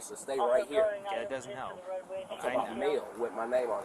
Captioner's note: radio chatter